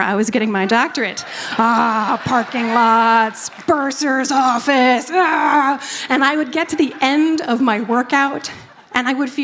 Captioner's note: laughter